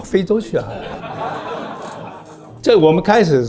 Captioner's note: laughs